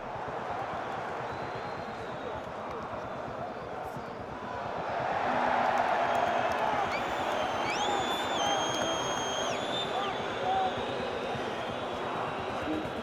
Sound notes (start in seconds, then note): 0.0 crowd cheers; 9.4 cheering continues